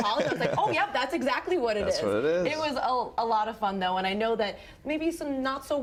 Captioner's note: laughter